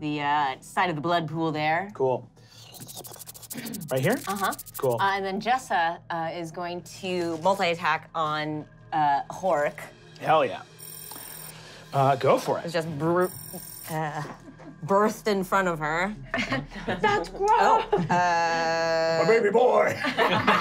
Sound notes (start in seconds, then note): 2.6 skittering